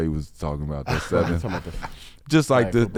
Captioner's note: laughing